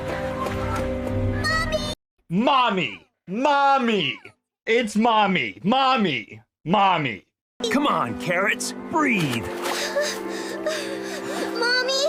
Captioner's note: panting